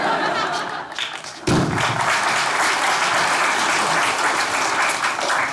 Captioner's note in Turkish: Alkış sesleri